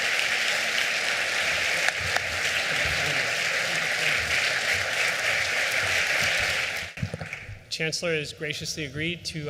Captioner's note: applause